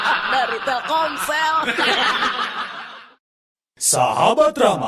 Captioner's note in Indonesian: tertawa